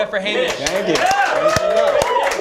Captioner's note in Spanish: aplausos